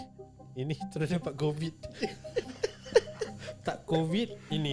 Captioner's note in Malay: ketawa